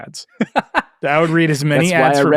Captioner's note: laughs